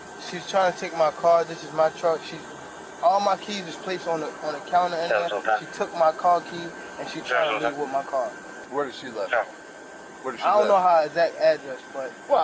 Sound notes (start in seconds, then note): 3.7 radio chatter